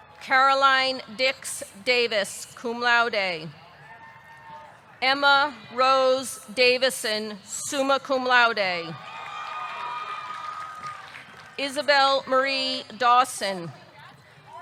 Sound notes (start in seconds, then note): 0.0 audience cheering; 3.8 audience cheering; 9.0 audience cheering; 9.0 audience clapping